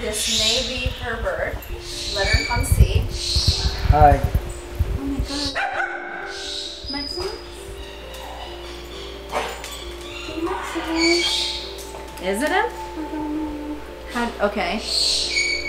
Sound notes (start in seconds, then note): 5.5 dog barking; 6.1 birds squawking